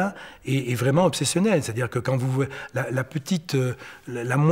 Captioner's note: French spoken audio